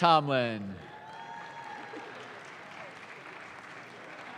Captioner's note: audience claps